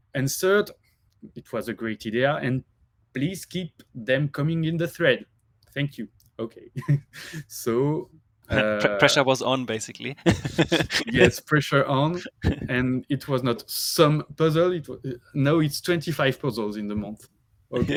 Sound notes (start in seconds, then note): 7.0 laughs; 10.0 laughs